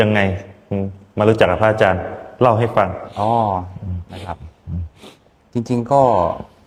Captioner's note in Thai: เสียงสูดหายใจ